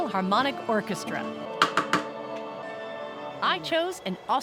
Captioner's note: tapping